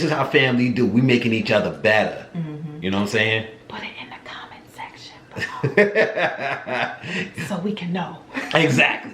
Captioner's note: whispers